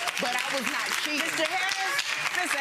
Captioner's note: audience clapping